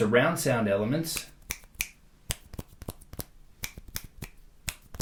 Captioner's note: snaps fingers